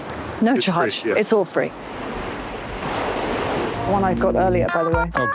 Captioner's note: waves roaring